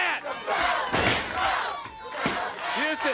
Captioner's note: crowd cheering